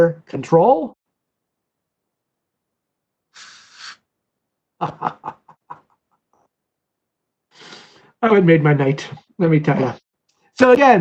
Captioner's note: laughter